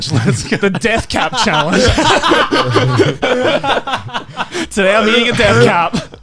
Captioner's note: men laugh